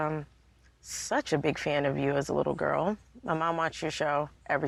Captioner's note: none